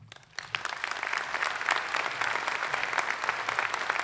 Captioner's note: applause